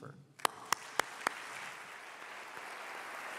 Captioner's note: applause